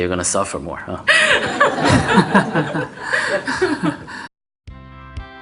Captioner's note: questioner/Audience Laughter